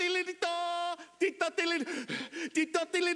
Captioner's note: gasp